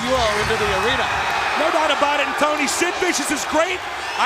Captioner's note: crowd cheering